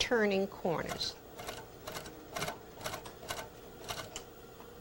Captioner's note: sewing machine